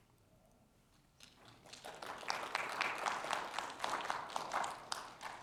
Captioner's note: audience clapping